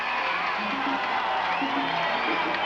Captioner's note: spectators cheering